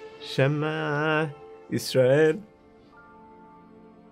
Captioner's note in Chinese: 念禱文